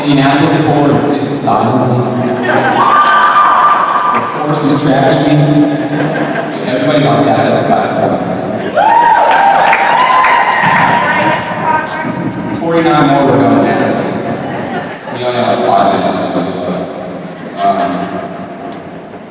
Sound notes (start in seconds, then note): 2.4 cheers; 5.7 laughter; 8.6 cheers